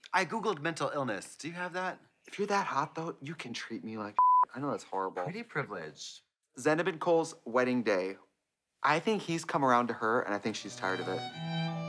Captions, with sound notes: I Googled "mental illness," do you have that? - If you're that hot though, you can treat me like (beep). I know that's horrible. - Pretty privilege. - Zanab and Cole's wedding day. I think he's come around to her and I think she's tired of it.